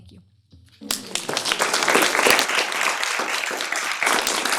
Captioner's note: applause